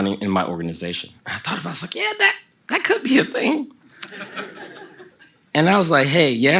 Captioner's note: the audience laughs